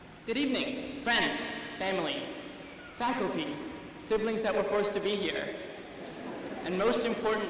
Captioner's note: laughter